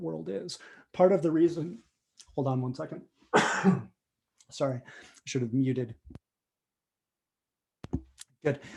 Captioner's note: coughs